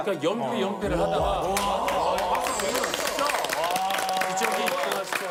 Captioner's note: applause